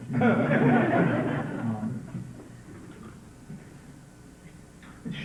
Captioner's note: laughter